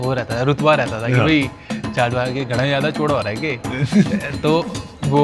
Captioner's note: speaking in the Jatt dialect